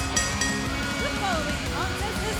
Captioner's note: bell ringing